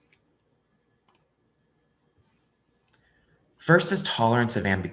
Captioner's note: mouse clicking